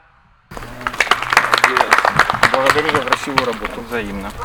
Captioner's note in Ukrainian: оплески